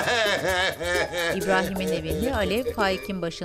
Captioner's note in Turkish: Ağlama sesi